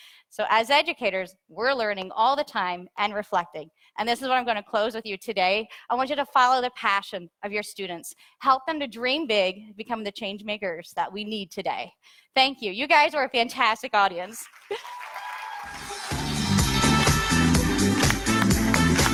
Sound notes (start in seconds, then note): 14.4 audience cheers; 15.6 upbeat music